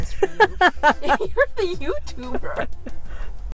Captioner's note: both laugh